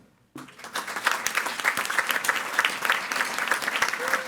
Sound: audience applauding

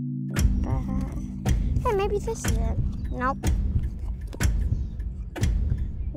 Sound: ticking noise

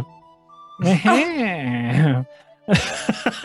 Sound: More Goodsex Groans

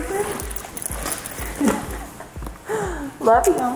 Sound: speaker 1 giggles

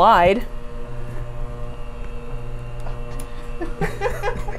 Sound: machine whirring continues; laughs

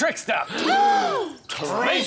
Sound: gasp!

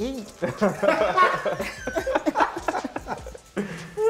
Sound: laughter

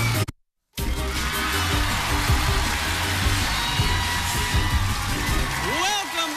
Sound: cheers and applause

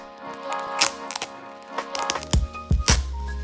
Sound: peeling noises

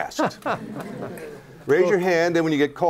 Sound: laughter

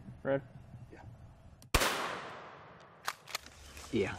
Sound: gunshot

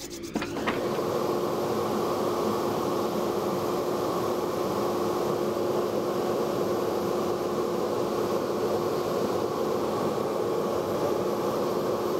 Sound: dust collector whirring

